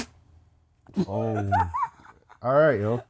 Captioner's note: laughter